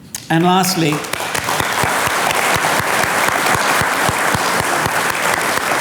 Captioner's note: audience clapping